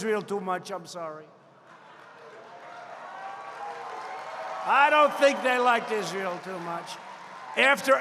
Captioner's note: applause